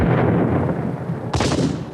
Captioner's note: cannon booms; guns bang